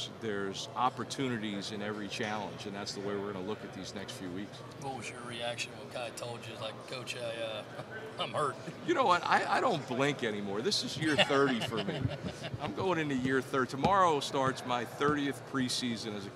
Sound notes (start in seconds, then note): 10.9 interviewer laughing